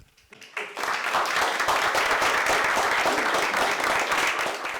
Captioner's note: students clapping